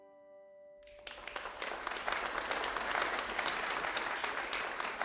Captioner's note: audience applauding